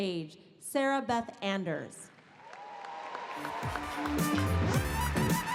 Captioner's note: audience applauds; pop music